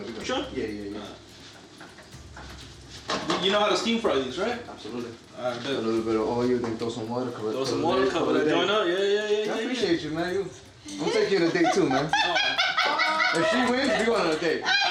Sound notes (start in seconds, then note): 10.9 laughing